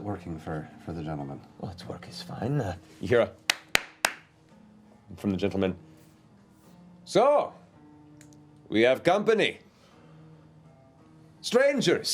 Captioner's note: clapping